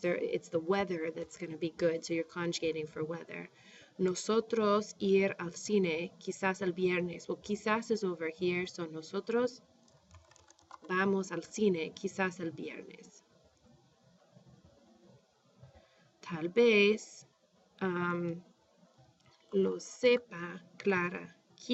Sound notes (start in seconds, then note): 0.9 spanish; 9.0 speaking spanish; 12.4 spanish; 14.0 speaking spanish